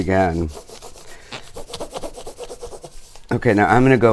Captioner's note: crayon grates